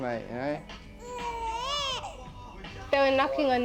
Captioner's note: baby crying